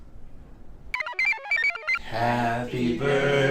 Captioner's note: computer chirps